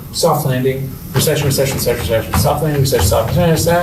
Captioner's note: mutters